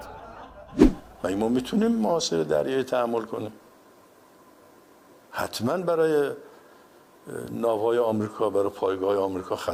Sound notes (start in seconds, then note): 0.0 laughter